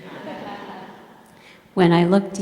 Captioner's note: laughter